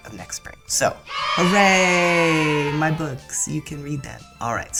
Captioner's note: cheering